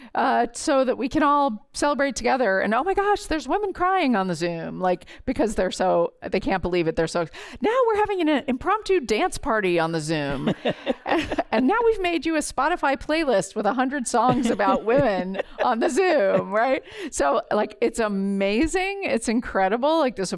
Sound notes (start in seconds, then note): 10.3 laughter